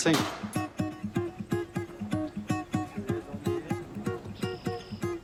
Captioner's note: birds twitter, indistinct chatter